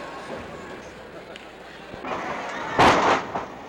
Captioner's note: crowd chattering; mat thuds